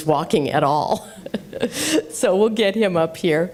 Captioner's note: laughter